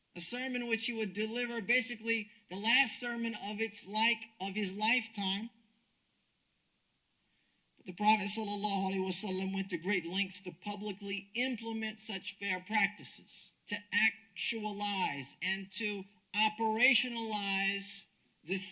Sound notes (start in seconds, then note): 8.4 speaks Arabic